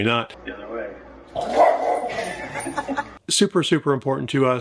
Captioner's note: Daisy barks